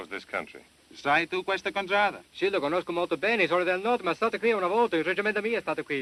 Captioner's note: speaking italian